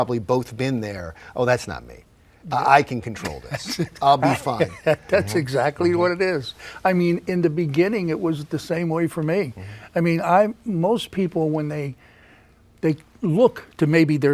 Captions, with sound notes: and you've probably both been there, oh that's not me. I can control this. (laughing) - That's exactly what it is. I mean, in the beginning it was the same way for me. I mean, most people, when they look to maybe